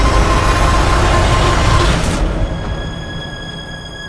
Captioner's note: heavy noise rising